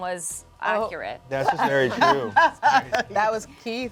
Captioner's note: laughs